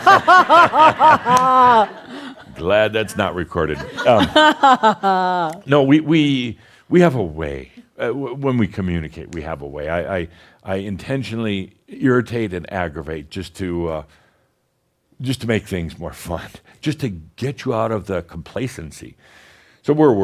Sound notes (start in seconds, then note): 3.8 laughs